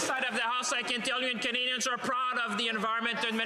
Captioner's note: some Applause